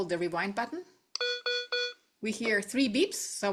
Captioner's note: device beeps three times